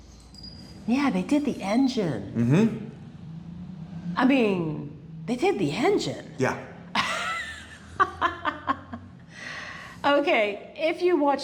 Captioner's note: laughter